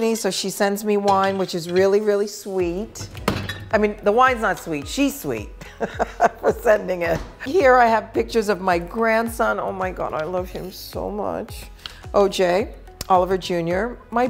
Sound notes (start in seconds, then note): 5.6 laughing